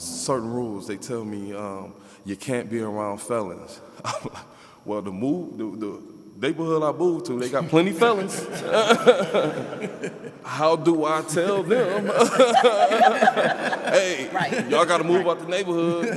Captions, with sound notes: And it's because of certain rules. They tell me, you can't be around felons. (laughs) Well, the neighborhood I moved to, they got plenty felons. (panelists laughing) How do I tell them, (panelists laughing)